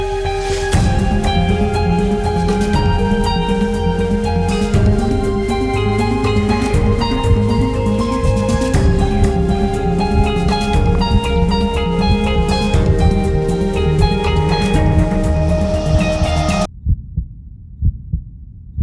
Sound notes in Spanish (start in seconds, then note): 16.7 latidos de corazón